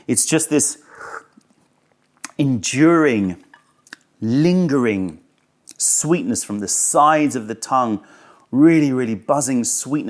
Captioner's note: sips tea